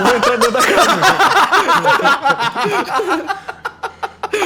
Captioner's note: laughter